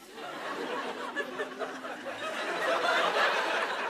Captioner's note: laughter